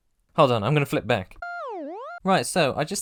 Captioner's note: smw_goal_iris-out.wav